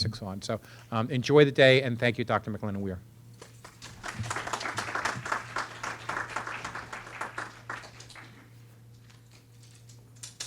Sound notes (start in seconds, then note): 3.4 audience clapping